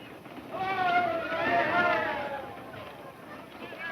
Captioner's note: people cheering